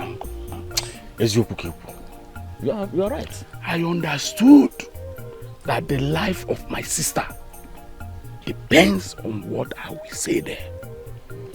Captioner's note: laughter